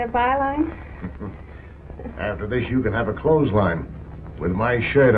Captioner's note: chuckles